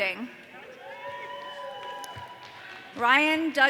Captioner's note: audience cheering